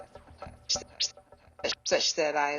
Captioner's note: tape rewinds